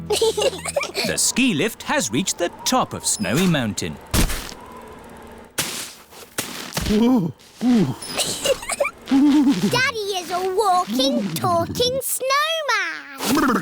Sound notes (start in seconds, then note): 0.0 both giggle; 6.8 groans; 7.7 giggles